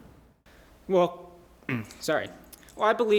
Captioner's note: ahem